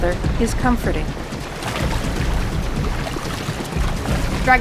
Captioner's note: sound of water rushing past